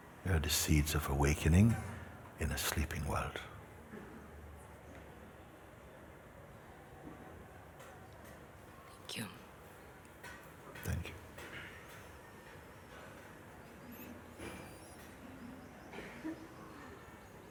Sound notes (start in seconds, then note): 12.7 silence